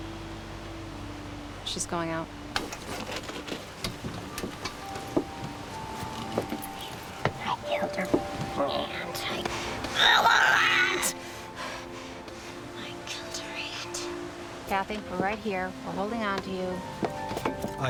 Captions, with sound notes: She's going out. [GROWLING INCOHERENTLY] Kathie, we're right here. We're holding onto you.